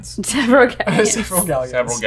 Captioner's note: laughing